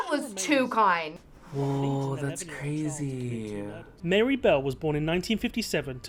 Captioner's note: voice-over